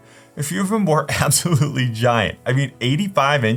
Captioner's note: chuckles